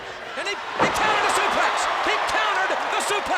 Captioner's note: audience cheers